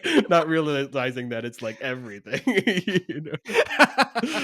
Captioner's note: laughs; both laughing